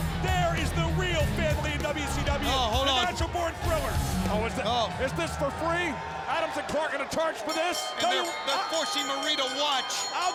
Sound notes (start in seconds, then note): 7.4 bell rings